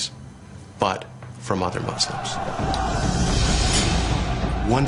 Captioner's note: shouting